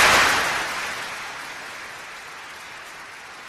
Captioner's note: applause